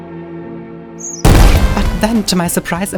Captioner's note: sad music; bomb exploding